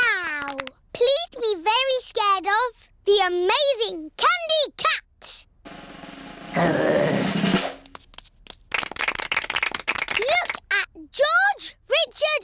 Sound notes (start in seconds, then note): 7.8 applause